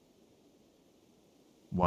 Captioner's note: silence